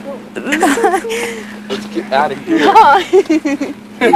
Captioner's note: laughter